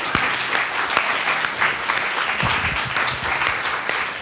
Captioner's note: attendees applauding